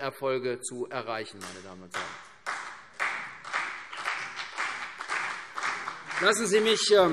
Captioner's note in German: Beifall CDU und BÜNDNIS 90/DIE GRÜNEN